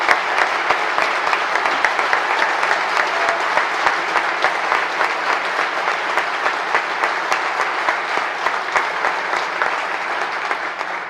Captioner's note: applause